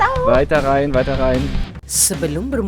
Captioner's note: speaking German